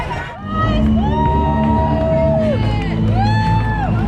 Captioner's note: crowd noise